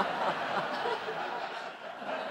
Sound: laughs

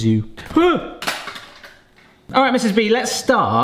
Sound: chip cracking

